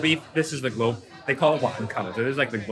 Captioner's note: speaks in foreign language